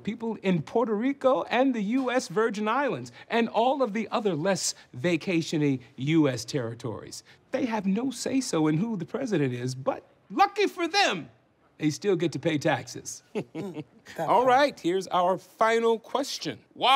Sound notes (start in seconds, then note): 13.2 chuckles